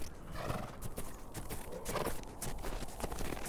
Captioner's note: hoof beats